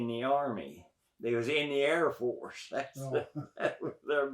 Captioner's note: laughs